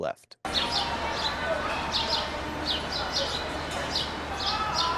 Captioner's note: birds chirping